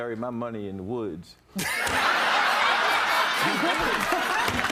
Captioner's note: laughter